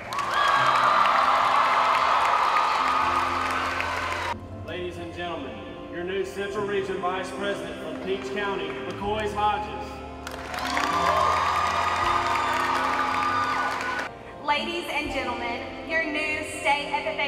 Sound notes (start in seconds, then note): 10.3 cheering